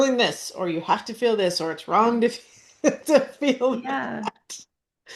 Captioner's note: laughs